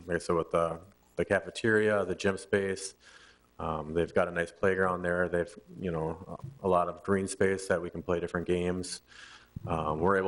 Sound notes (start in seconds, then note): none